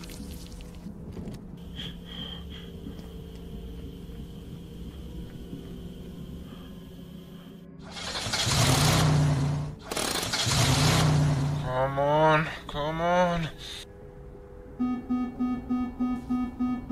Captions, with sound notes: *engine roars* Come on, come on. *alarm beeping*